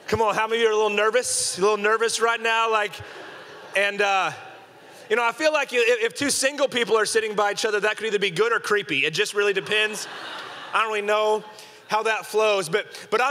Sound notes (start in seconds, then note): 9.3 congregation laughing